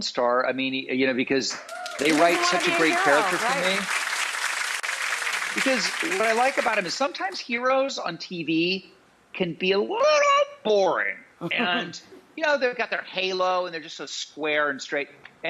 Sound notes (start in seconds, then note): 1.6 audience applauds; 11.4 giggles